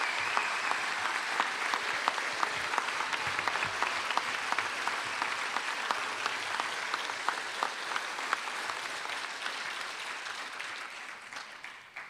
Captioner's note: cheering and applause